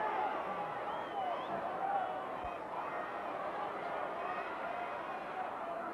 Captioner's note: audience cheering continues